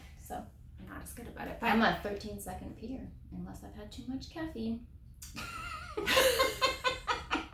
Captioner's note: laughter